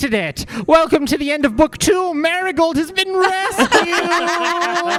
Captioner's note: laughter